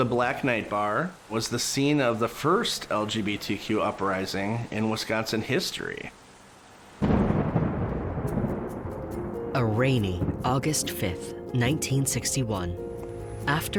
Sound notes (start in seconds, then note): 7.0 thunder claps